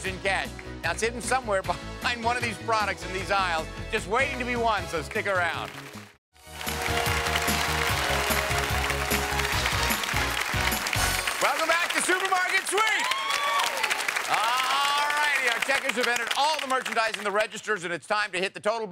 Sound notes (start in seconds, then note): 6.4 upbeat game show music; 7.2 audience applauds; 12.8 audience cheers